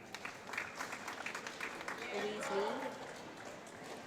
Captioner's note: applause